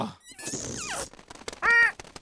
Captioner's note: flapping